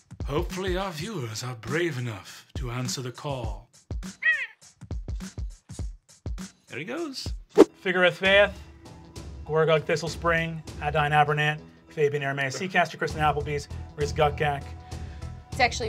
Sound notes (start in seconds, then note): 4.2 mimics bird cawing